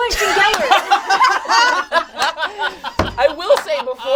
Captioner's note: all laugh